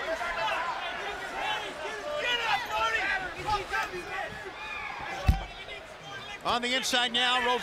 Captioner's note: crowd chatter